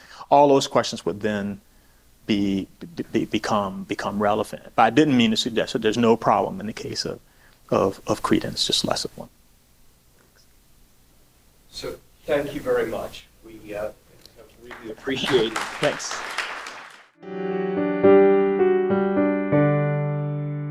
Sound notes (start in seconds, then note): 16.1 applause; 17.2 audio logo